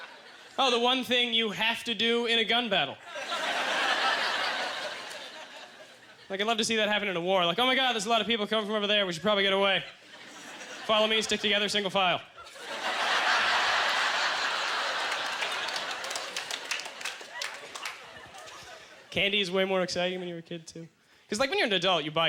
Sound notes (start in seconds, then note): 0.0 audience laughter; 3.0 audience laughter; 12.3 audience laughter; 16.8 scattered applause